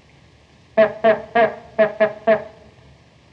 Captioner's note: horn tooting